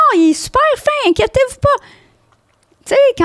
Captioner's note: in french